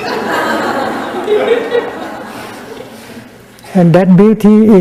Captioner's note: laughter